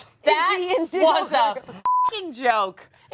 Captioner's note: beeps